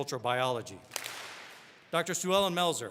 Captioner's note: all clap